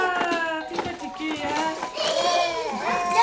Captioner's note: crying; speaking French